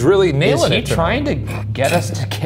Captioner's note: chuckling